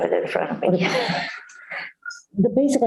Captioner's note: laughter